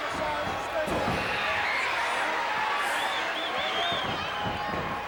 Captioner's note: audience cheers